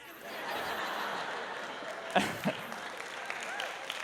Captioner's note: laughter